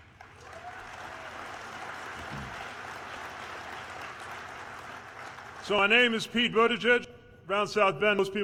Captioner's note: applause